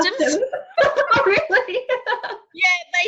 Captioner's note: laughing